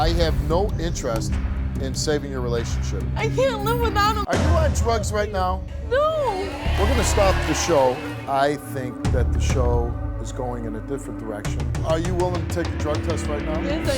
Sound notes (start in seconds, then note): 6.2 audience shouting